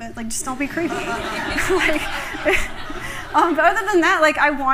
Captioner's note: laughter